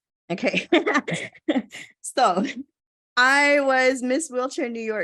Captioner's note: laugh